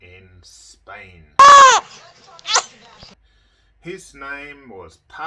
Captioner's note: baby crying